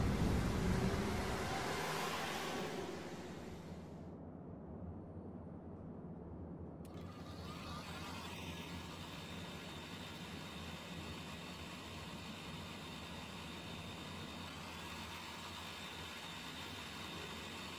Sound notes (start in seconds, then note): 4.7 muffled city noises; 7.3 film projector starts